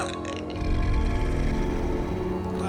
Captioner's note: goblin growls